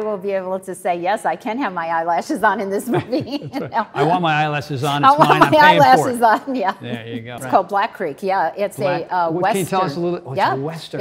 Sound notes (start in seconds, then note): 2.8 Tony and Cynthia laughing; 5.0 Cynthia laughs